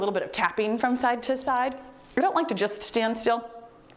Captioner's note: timer beeps